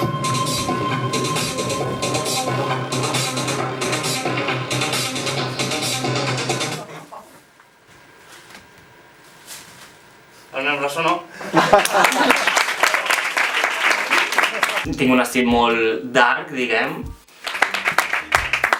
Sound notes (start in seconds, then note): 6.2 music stops abruptly; 11.7 applause